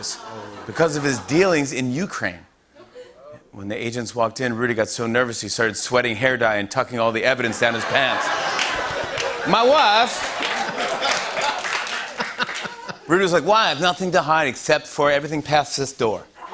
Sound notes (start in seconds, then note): 7.4 laughter; 9.2 As Borat; 11.6 laughter; 12.8 normal voice